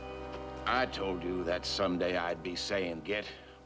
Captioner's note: none